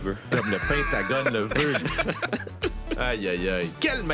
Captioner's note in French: rires